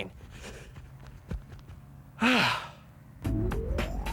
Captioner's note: sighing